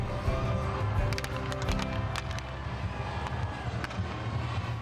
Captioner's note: sticks hitting